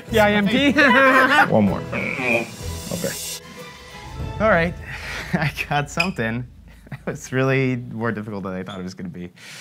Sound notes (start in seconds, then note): 0.6 both laughing; 1.7 grunts